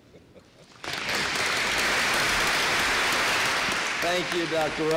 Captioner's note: applause